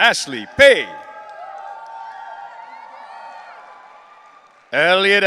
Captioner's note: audience cheering